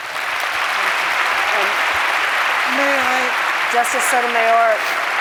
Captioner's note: applause